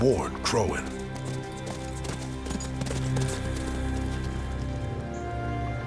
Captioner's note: hoofbeats